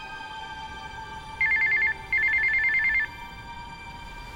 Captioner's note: cell phone rings